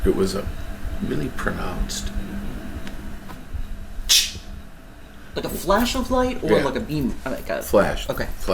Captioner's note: chh!